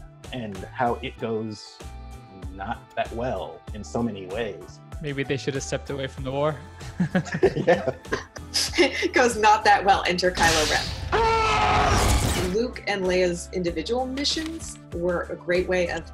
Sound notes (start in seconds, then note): 6.8 laughter; 11.0 screams